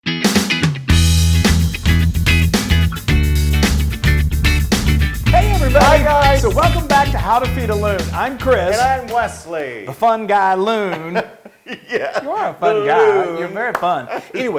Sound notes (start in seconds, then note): 10.7 laugh